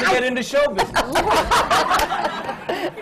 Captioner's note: laughter